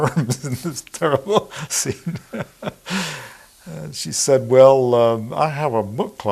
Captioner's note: laughing